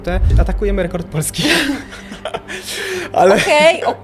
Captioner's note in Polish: śmiech